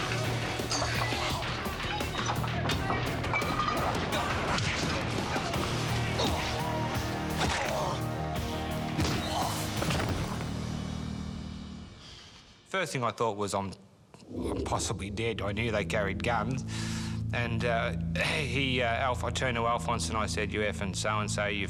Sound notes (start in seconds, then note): 0.1 people screaming; 6.5 punches thud